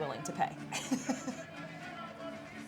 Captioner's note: laughing